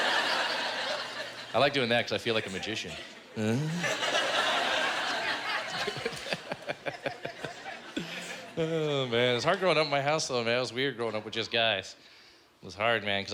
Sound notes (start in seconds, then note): 4.4 laughing